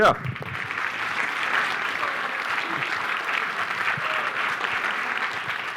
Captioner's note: applause